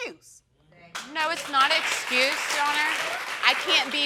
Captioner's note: audience applauds